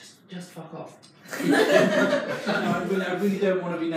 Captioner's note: audience laughs